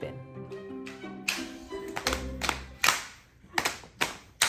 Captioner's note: group clapping